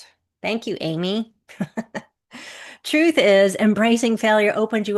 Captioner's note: chuckles